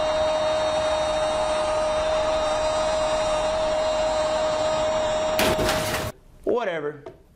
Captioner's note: crashing noise